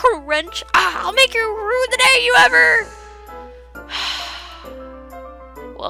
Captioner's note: sigh